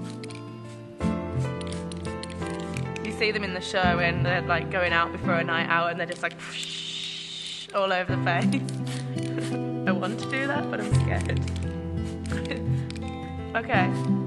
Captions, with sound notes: You see them in the show and they're like going out before a night hour and there're just like (spraying) all over the face. I want to do that, but I'm scared